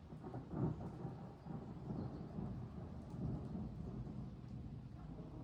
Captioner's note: thunder getting closer